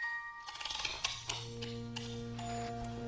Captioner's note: musical tinging; mechanical clicking; tinkling music